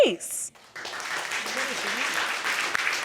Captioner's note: audience clapping